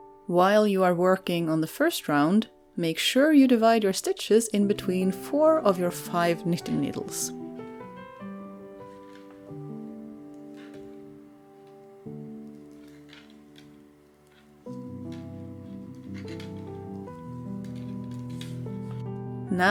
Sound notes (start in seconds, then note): 14.6 clickety-clack of the knitting needles